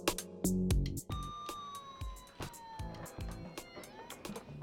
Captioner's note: ambulance sound